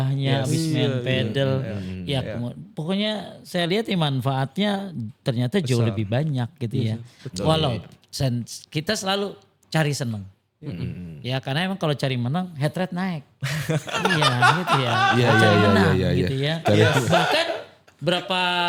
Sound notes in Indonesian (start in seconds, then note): 13.6 tertawa